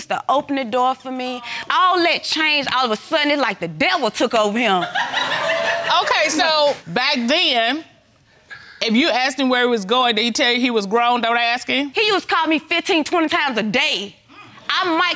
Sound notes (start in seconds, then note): 4.8 audience laughing